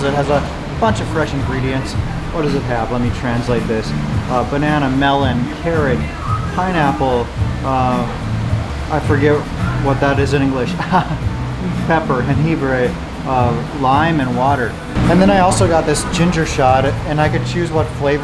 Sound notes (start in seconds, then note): 12.6 speaks Spanish